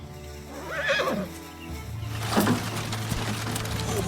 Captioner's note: curious music; horse whines; wagon clanks